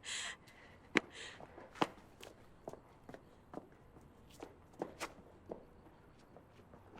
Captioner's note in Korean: 떠나는 진희 발걸음 소리